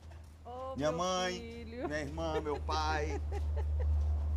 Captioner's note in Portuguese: rindo